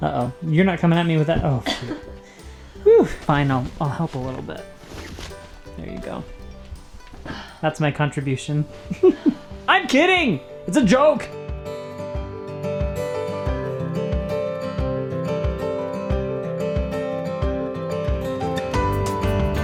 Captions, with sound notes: Ut oh, you've not coming at me with that? Oh, whew. Oh, fine I'll help a little bit. There you go. That's my contribution. (laughing) I'm kidding. It's a joke. (upbeat music) (upbeat music)